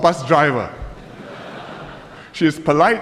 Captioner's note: laughter